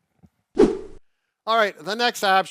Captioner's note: whooshing